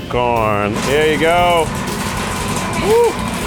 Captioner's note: corn rattling